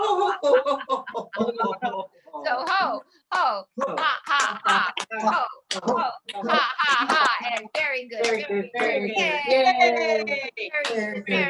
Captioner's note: laughter